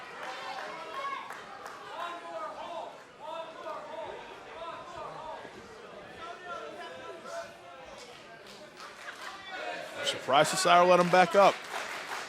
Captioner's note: crowd chatter